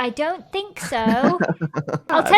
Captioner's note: laughs